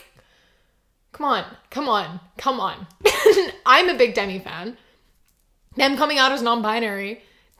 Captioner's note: laughs